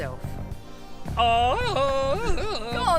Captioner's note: Tarzan's jungle cry!